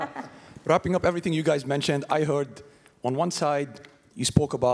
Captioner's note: laugh